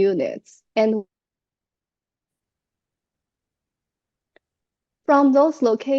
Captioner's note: audio cuts out